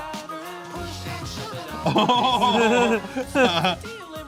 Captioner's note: both laughing